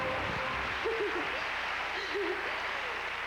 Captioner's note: giggles